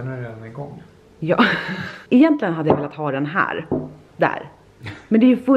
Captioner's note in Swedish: skrattar